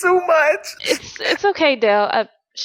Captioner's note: Dell cries